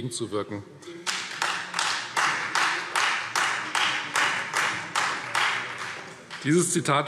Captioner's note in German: Beifall Freie Demokraten